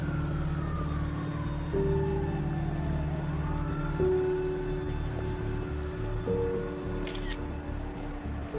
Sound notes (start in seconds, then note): 7.0 shutter clicking